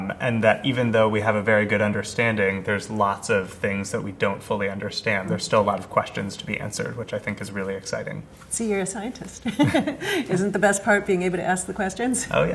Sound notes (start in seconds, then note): 9.4 laughs